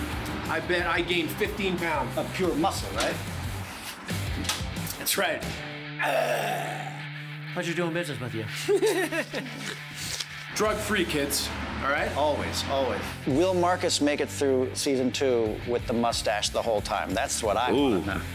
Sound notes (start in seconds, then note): 6.0 grunts; 8.5 laughs